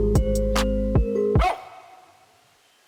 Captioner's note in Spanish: ladrido